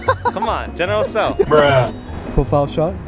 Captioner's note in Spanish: Voz en off